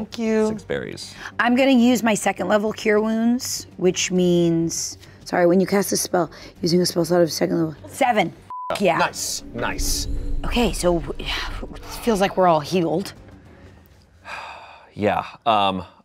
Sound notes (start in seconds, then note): 8.5 beep; 14.1 sighs